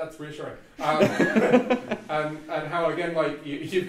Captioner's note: audience laughs